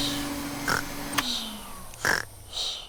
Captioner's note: snores; whirring stops